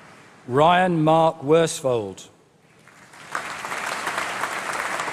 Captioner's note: applause